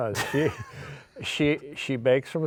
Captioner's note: laughing